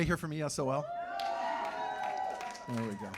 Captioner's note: cheers and applause